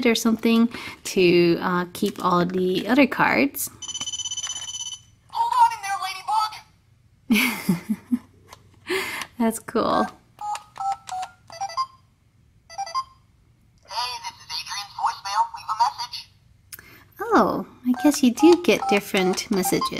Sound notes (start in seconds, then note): 4.0 ringing; 7.3 voiceover laughs; 9.5 voiceover; 10.2 beeping; 16.9 voiceover